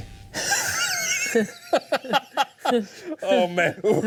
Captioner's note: laughs